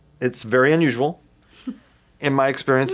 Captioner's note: laughs